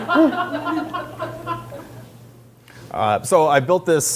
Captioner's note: laughter